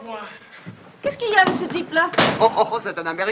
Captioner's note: speaking in french